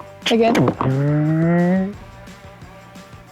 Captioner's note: making turkey drumming sounds